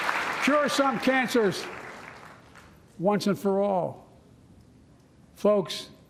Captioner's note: applause